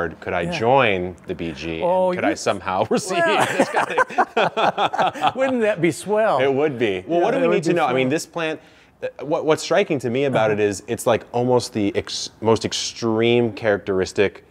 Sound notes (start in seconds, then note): 2.8 laugh